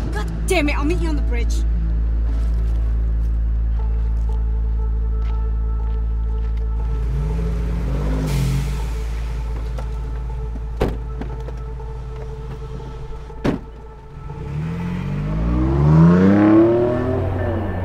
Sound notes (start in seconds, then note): 7.6 vehicle rumbling; 13.4 door shutting; 13.9 engine revving